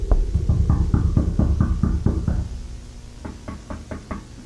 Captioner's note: knocking on door